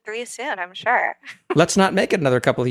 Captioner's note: laugh